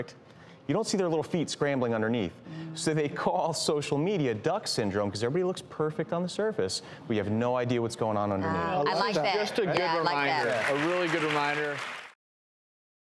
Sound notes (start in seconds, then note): 9.9 audience applauds